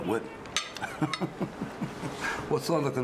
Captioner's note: chuckles